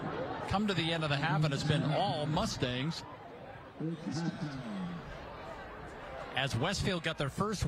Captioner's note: laughter